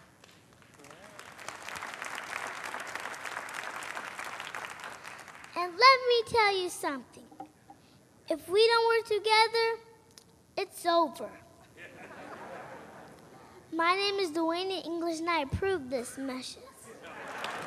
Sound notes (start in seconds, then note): 0.0 applause; 11.8 audience laughing; 17.2 applause